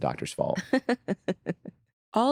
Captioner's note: laughing